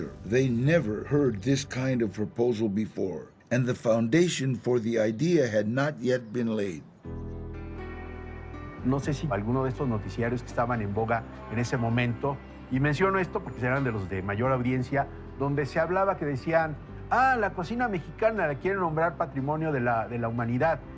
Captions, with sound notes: They'd never heard this kind of proposal before. And the foundation for the idea had not yet been laid. [soft guitar music] [in Spanish] It may have been one of those popular shows at the time, and I'm only mentioning it because it had a high viewership, but they said, "Oh, they want to declare Mexican cuisine to be cultural heritage."